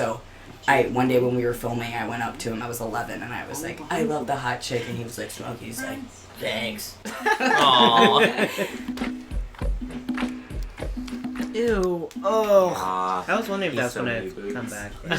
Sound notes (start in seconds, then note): 6.3 grizzly voice; 9.7 laughter